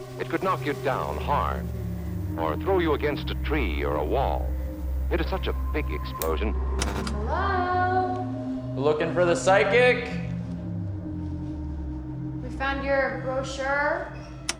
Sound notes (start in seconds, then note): 5.1 sign illumination clicks off